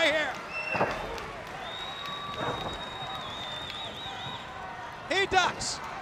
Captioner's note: crowd cheering